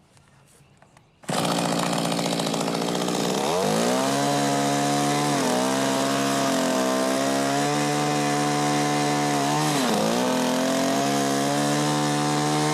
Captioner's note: small motor running